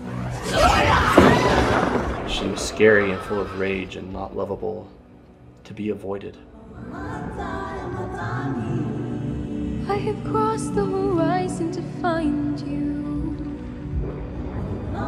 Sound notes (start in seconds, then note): 0.0 thunder cracking; 0.3 Ka roaring; 6.7 singing in foreign language; 14.9 singing in foreign language